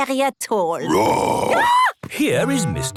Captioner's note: roar, scream